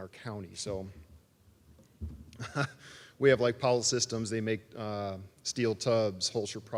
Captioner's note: laugh